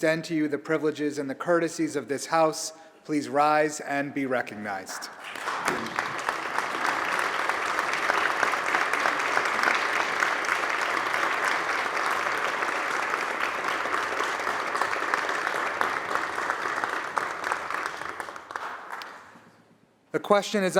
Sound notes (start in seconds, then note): 5.2 applause